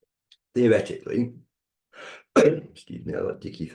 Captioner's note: clears throat